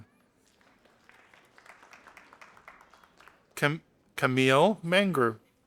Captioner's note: audience applauding